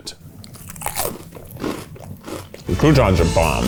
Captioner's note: crunching